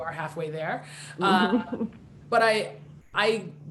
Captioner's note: laughing